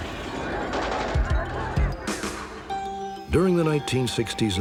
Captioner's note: gunshots